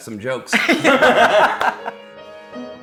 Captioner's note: laughing; gentle piano music